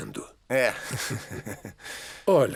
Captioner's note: laughs